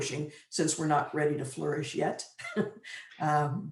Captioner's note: chuckles